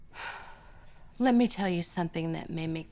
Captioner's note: sighs